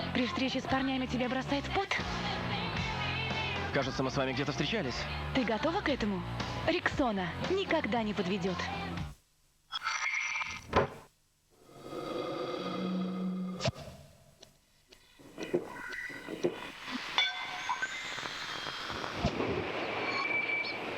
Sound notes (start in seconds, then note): 9.5 smacking